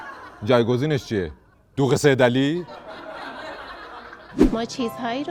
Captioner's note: laughter; laughter